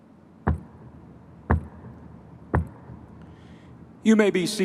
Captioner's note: university mace thumping